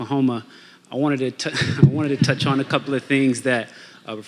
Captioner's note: audience laughing